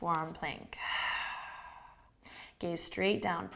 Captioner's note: exhaling